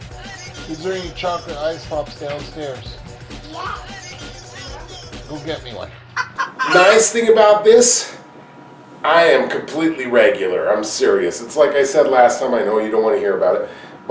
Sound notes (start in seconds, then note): 6.1 chicken sound